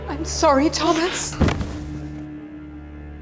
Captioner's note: thuds to floor